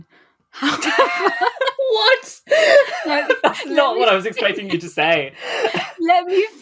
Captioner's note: laughing